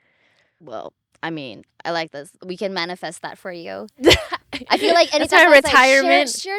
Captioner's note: laughing